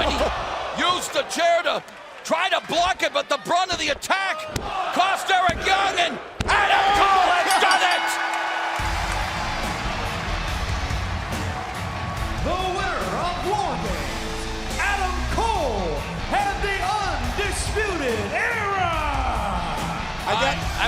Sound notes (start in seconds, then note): 7.4 bell ringing